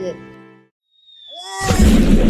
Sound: screams

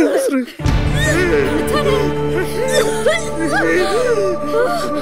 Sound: coughs

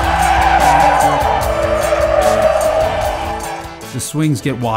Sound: instrumental rock music; tires squealing

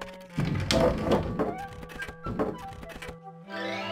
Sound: wood clatters

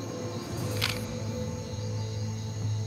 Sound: camera clicks

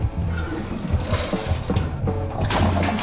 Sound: toilet flushes

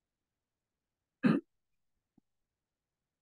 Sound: silence; audience member coughs; silence

